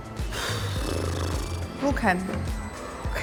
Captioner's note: sighs